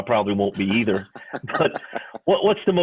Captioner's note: laughing